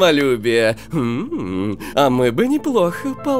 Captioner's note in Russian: игривый вздох